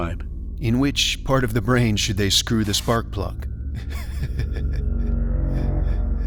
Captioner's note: laughs